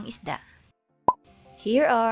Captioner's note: blop